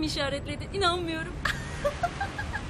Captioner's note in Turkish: Gülüyor